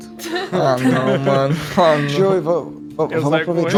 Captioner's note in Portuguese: Risadas